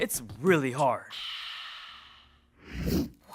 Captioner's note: refreshed sigh